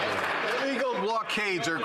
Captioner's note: some Applause